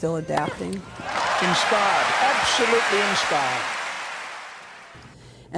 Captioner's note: applause